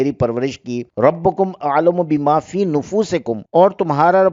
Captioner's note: in Arabic